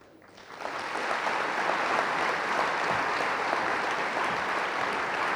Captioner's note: audience applauding